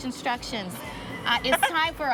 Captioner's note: laughs